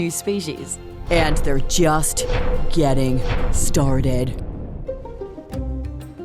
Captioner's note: dramatic voice